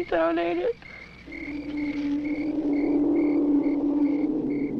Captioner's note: creature wailing